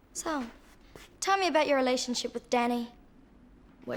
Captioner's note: none